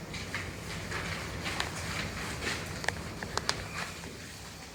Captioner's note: papers rustling